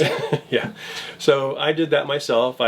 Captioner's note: laughs